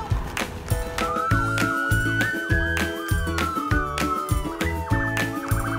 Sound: police sirens wailing

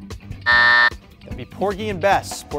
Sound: buzz

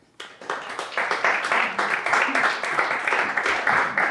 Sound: applause

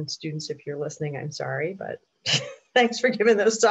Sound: chuckles

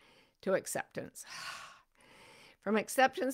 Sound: sighs

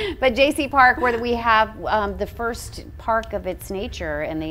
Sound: laughs

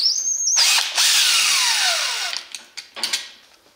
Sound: drill whirrs

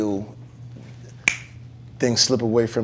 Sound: snap

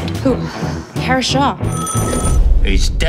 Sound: phone ringing

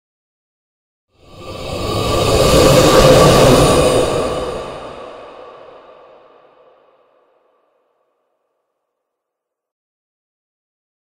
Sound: ghost moan

